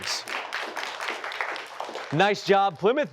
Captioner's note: applause